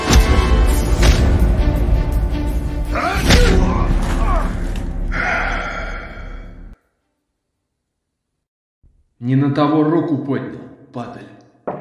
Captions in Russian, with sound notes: (Вздыхает) Не на того руку поднял, падаль.